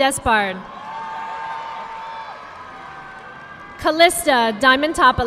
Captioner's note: audience clapping